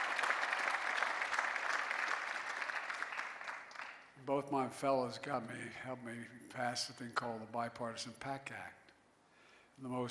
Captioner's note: cheering and applause